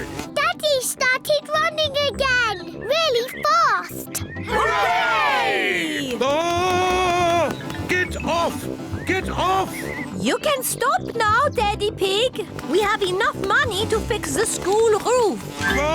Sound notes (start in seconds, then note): 4.5 screams